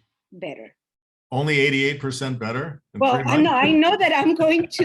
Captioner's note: laughs